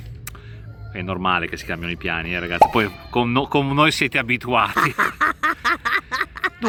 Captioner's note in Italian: risate